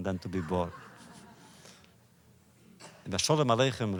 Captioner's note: laughter